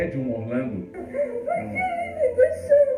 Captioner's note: sobbing